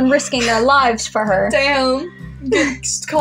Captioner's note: laughing